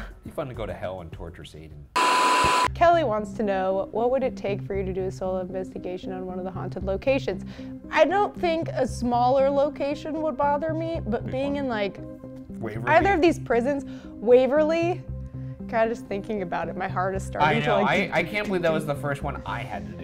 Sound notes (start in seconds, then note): 2.0 static crackles